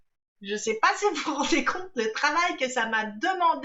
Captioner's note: none